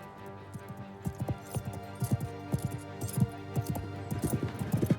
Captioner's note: suspenseful music continues; horse hooves thudding